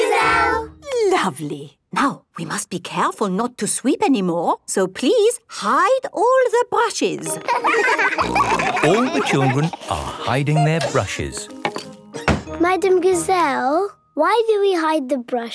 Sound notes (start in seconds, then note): 7.3 laughter; 8.1 snorting